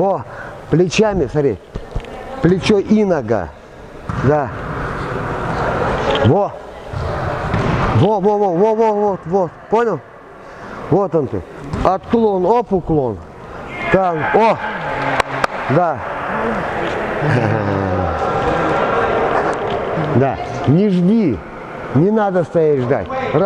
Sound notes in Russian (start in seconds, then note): 16.2 Смеётся